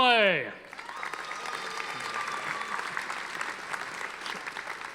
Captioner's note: audience applauding